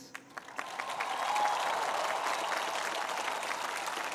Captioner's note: cheering